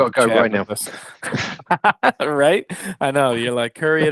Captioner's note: laughs